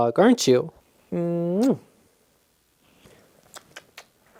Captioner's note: lips smacking